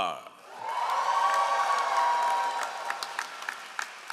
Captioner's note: all applauding